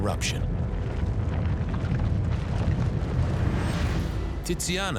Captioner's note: rock crumbling